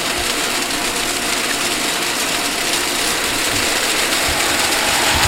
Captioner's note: water spraying